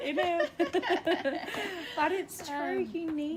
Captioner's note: laughter